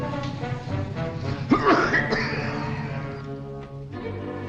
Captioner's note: coughs